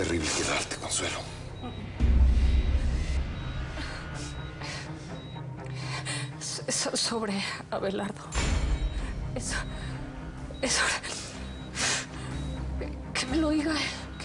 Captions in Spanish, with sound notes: - TENGO UNA NOTICIA TERRIBLE QUE DARTE, CONSUELO. [Sollozos y jadeos de ella] - SO... ¿SOBRE ABELARDO? ESO... ESO...